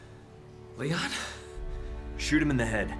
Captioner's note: in English